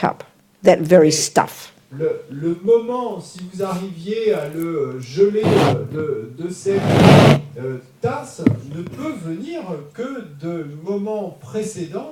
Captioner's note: audience member speaks in French